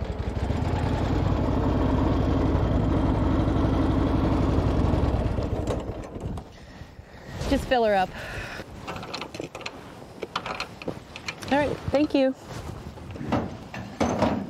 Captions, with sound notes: [engine rumbles] [engine goes silent] - Just fill 'er up. All right, thank you.